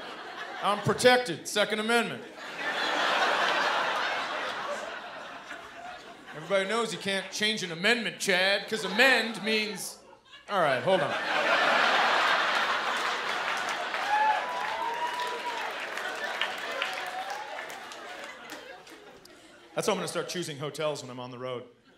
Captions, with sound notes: I'm protected, Second Amendment. Everybody knows you can't change an amendment, Chad, 'cause amend means... All right, hold on. [laughter and cheering] That's how I'm gonna start choosing hotels when I'm on the road.